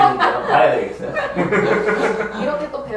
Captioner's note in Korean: 웃음